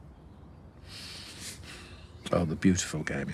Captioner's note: he inhales